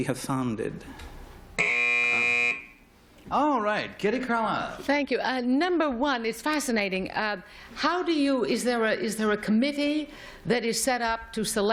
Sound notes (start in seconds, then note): 1.6 buzz